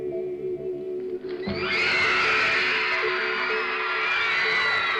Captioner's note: wild cheering